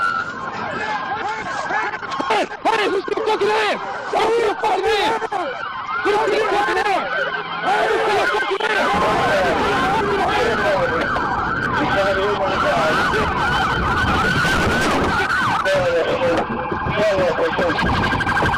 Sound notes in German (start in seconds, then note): 7.6 schreien